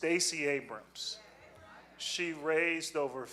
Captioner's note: audience muttering